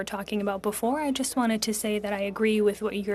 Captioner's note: speaking French